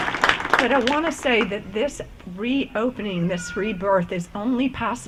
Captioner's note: applause